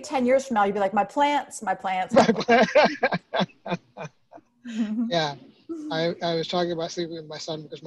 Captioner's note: laughing